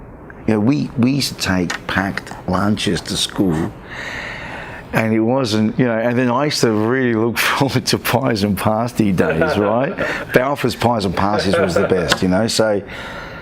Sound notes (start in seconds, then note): 9.1 laughs